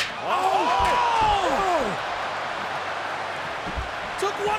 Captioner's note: crowd cheering